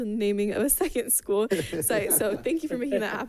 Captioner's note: people chuckling